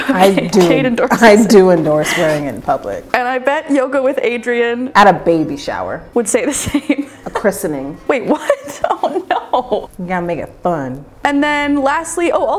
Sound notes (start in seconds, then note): 0.0 laughing; 6.6 laughing